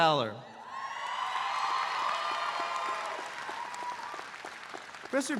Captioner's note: audience cheering